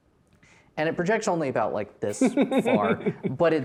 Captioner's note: laughing